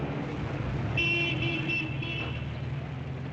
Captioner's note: horn honking